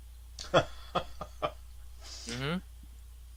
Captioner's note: laughs